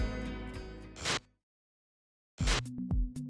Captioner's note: static buzzes; soft electronic music